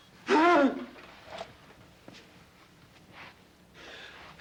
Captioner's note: Casey groans